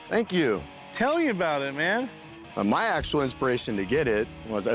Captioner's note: none